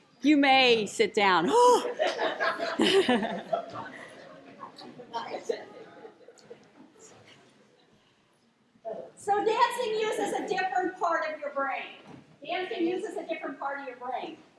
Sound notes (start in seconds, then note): 1.8 laughter